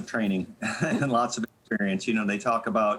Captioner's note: chuckling